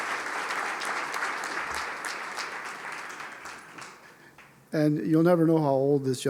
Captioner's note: applause